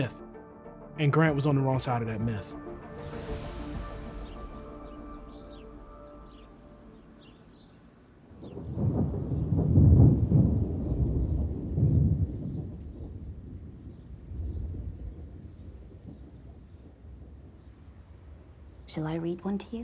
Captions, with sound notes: And Grant was on the wrong side of that myth. [thunder rumbling] Shall I read one to you?